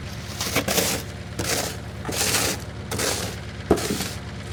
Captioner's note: shovel scraping